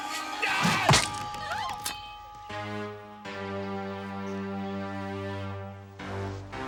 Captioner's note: ladies screaming; man yelling